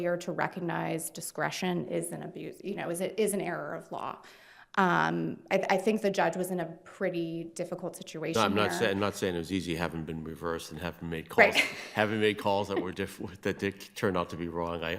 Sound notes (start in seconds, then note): 11.3 chuckles